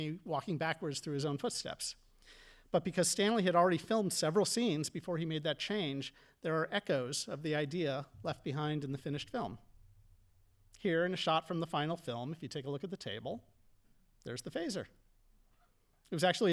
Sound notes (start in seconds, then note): none